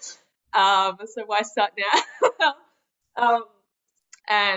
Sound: laughs

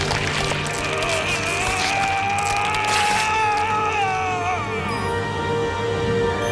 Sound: groaning, screaming

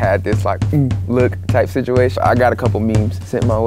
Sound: makes noise with mouth

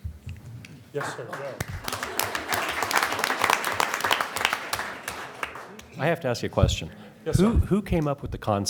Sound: applause

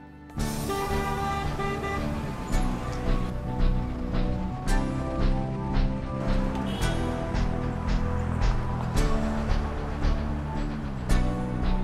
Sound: city traffic sounds

